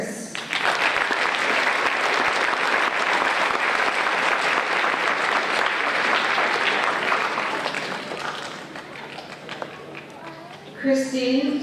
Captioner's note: applause